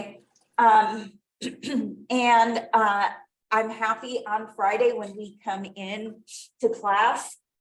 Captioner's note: clears throat